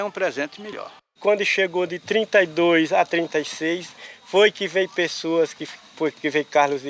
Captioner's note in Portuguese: Sons de insetos no mato